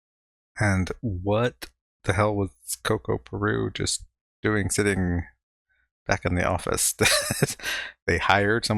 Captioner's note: chuckling